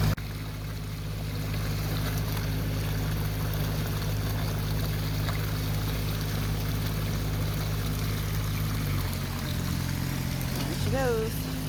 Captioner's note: rushing water